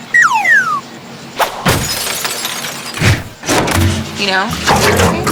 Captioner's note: breaking glass